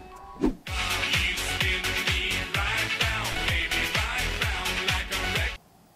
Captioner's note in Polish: dźwięk telefonu